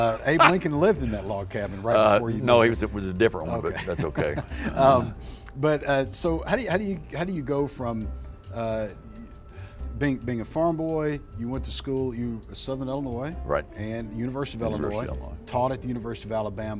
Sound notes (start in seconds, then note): 3.5 chuckles